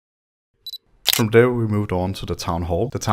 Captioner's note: shutter sound